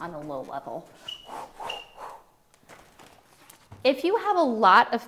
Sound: huffs

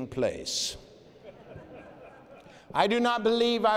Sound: laughter

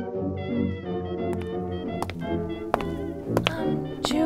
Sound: footsteps approaching

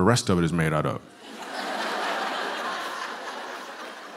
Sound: laughter

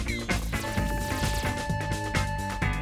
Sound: bell ringing

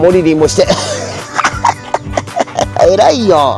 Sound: laughs

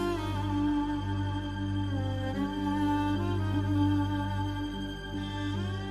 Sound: sobs

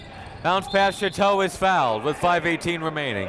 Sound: whistle

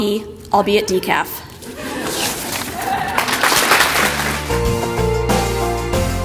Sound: audience applause

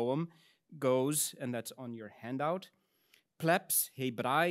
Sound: speaks in Latin

